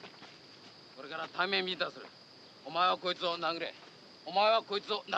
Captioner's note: speaking Japanese